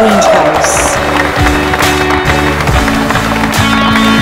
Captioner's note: All clapping